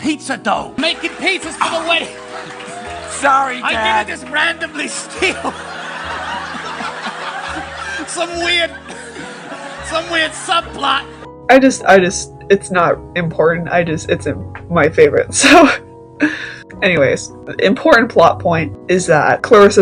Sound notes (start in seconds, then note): 2.4 cheers for Mr. Wilson